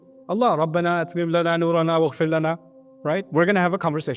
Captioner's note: Arabic